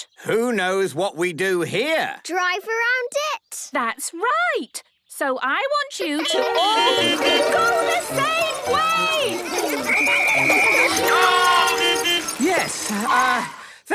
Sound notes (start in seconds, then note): 6.2 beeping; 9.8 whistle blowing; 11.8 beeping